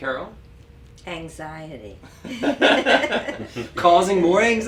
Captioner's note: laugh